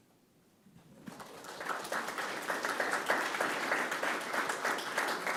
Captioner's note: audience applause